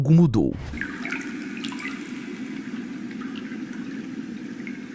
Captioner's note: cave echo with the sound of a lake